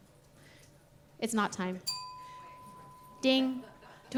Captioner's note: bell dinging